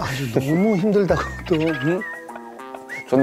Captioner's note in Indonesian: hahahahaha